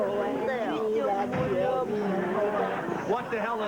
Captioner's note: all cooing